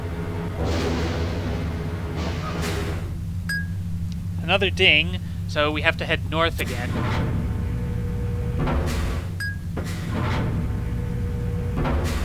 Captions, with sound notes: *ding* Another ding, so we have to head north again. *ding*